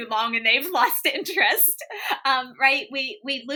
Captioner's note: laughter